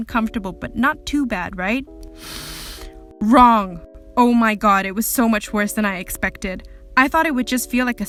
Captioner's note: dramatic inhale